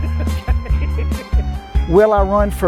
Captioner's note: laughs